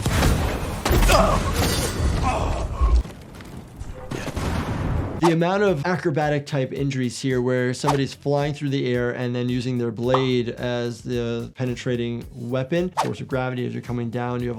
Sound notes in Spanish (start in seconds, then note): 1.1 personaje gruñendo y jadeando